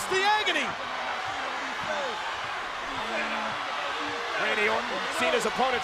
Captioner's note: applause